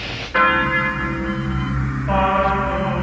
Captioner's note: beep beep beep; a single chime of a big bell